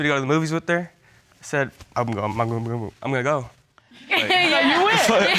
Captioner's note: stuttering; all laughing